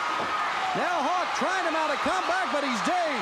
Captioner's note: crowd cheering